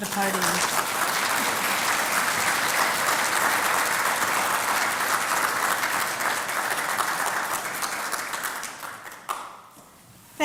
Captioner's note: applause